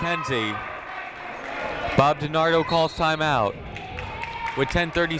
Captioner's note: whistle tweeting